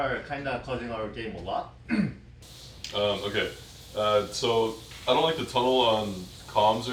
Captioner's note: clears throat